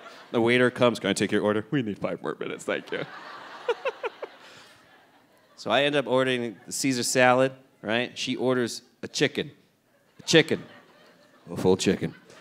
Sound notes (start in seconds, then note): 0.0 audience laughing; 0.0 chuckling; 2.8 laughs